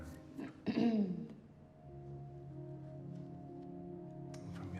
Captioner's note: clears throat